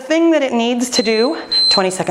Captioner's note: timer beeping